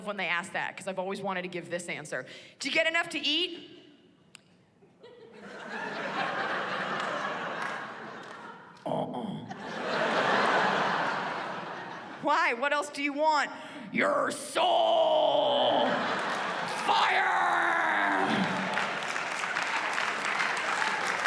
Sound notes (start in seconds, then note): 4.9 laughter